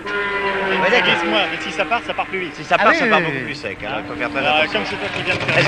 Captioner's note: laughs